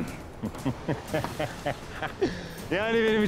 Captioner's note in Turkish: Gülme sesi